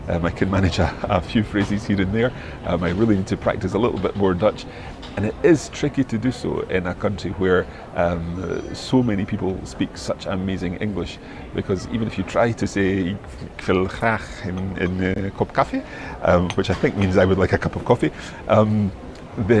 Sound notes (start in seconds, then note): 14.3 speaking Dutch